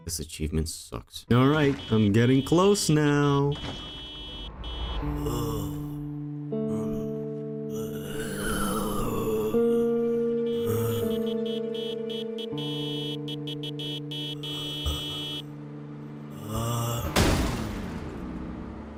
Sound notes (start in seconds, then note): 5.8 wandering zombie noises; 10.3 distant honking